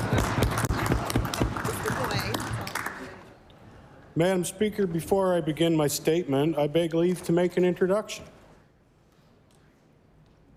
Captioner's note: applause